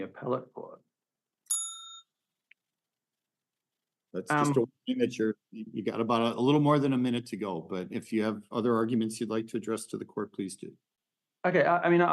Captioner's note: timer warning bell rings